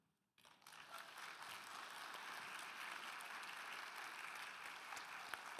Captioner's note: audience applauding